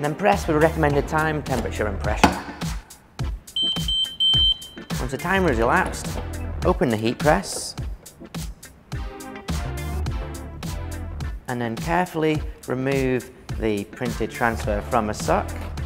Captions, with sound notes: and hen press for the recommended time, temperature and pressure. (timer beeps) Once the timer is elapsed, open the heat press, and then carefully, remove the printed transfer from the sock.